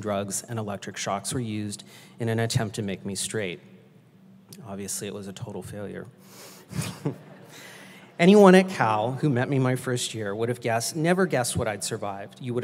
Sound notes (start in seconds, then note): 6.7 laughs